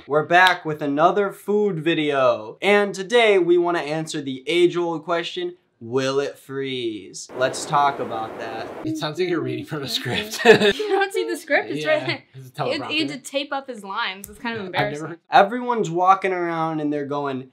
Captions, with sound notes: - We're back with another food video. And today we want to answer the age old question, will it freeze? Let's talk about that. (wind whooshing) - It sounds like you're reading from a script (laughs). - Can you not see the script? It's right there. - Yeah, it's a teleprompter. - He had to tape up his lines, it's kind of embarrassing. - Everyone's walking around and they're going,